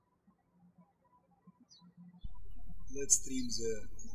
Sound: birds chirping

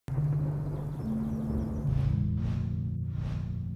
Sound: wind blowing

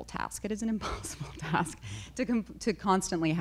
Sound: chuckles

